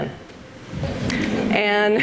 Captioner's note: audience laughs